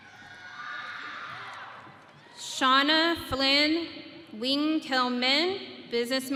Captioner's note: audience cheering